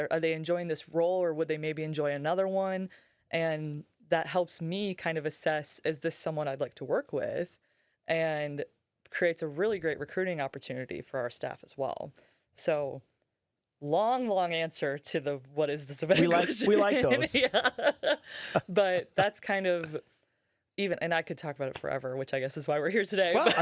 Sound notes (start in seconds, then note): 16.1 laughing